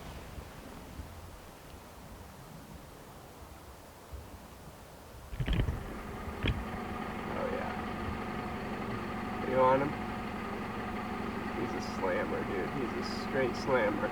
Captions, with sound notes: (vehicle/natural noises) he's a slam but he's straight slammer